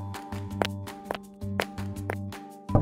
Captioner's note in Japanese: 靴音